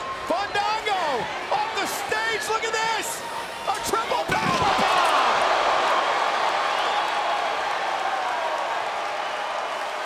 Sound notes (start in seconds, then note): 5.4 audience cheers